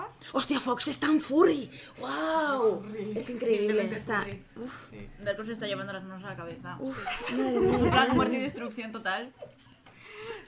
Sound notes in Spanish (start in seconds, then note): 7.0 risas